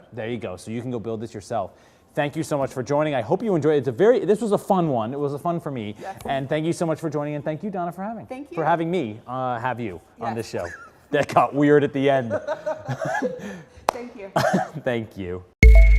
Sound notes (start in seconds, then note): 12.3 laugh